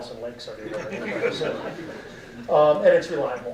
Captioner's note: audience laughing